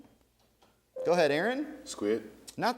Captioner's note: ding